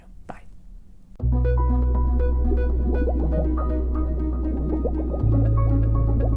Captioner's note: serene music; water bubbling